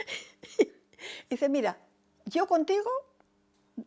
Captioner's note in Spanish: ríe